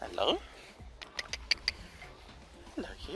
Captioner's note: click, click, click, click, click